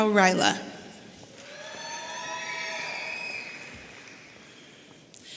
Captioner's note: audience cheering